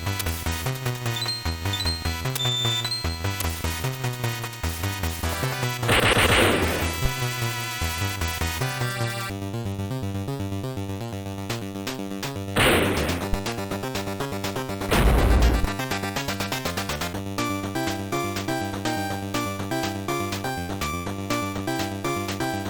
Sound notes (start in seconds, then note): 14.9 thud